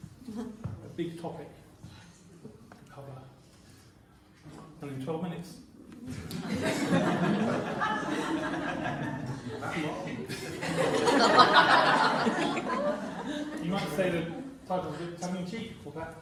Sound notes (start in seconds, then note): 6.7 laughter; 10.7 laughter